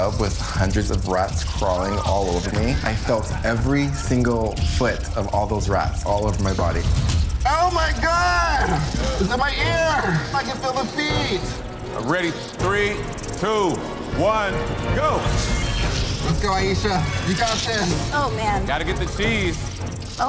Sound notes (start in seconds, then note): 15.8 dramatic music; 15.8 rats squealing